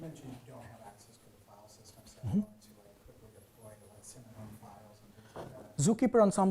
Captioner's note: man speaking faintly off microphone